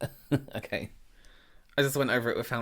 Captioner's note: laughing